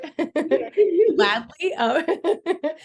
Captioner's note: both laughing; more laughter